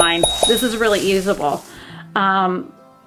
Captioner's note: bell dinging